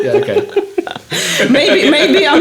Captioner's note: laughing